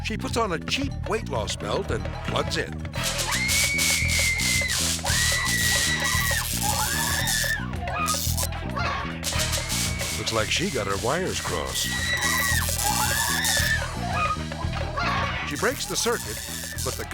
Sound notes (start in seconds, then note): 3.0 electricity crackling; 3.1 woman screaming